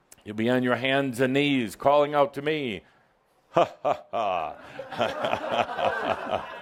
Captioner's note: laughter